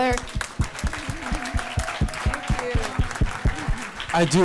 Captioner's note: crowd applauds